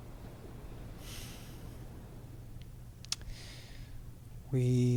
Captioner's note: sighs